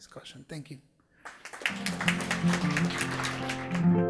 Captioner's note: applause